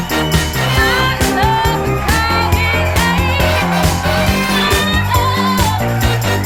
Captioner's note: crowd cheering; person vocalizing